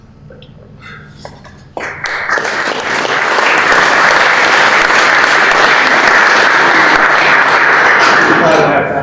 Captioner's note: applause